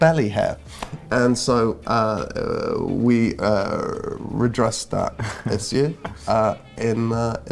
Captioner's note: Pope laughs